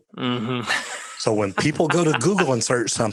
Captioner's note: laughing